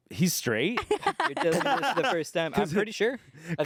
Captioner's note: everyone laughs